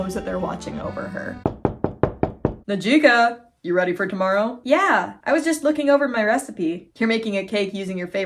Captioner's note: knocking